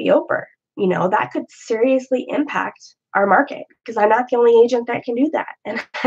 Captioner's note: laugh